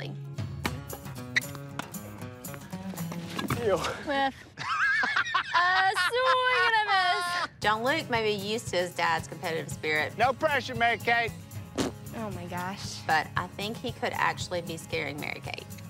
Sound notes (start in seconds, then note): 3.8 laughs; 11.6 raspberries